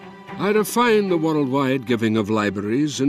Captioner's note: Voz en off